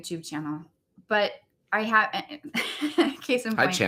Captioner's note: laughs